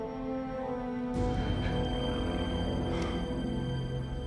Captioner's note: both pant